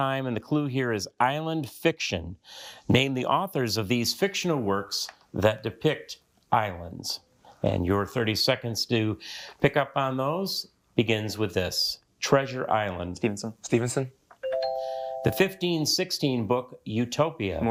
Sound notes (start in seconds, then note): 14.4 bell dings